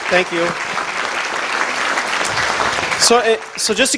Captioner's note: audience applause